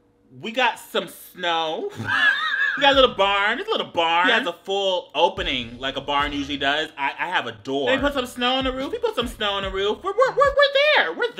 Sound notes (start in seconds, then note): 1.9 laughing